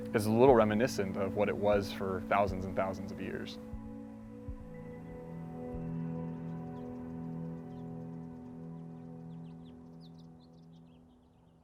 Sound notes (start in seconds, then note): 4.8 serene music; 6.3 birds chirping